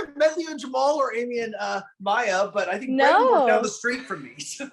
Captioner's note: laughs